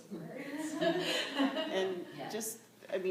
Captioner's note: laughter